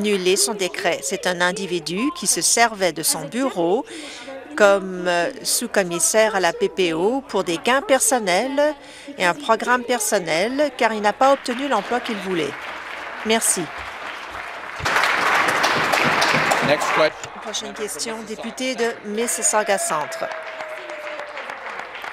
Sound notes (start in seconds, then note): 13.3 some Applause